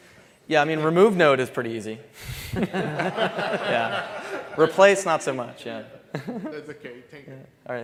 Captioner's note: laughter